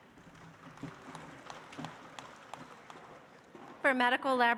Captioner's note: audience applauds